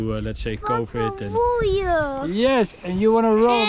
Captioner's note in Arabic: يتحدث بلغة أجنبية